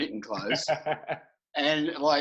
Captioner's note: laughing